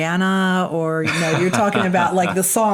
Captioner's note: laughs